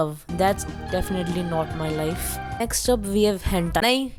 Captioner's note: sed Noises